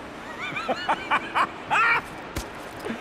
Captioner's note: laughs